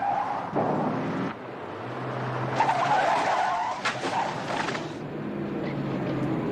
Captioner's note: tires screeching